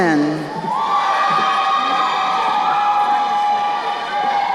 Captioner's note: crowd cheering